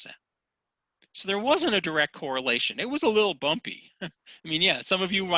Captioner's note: scoughs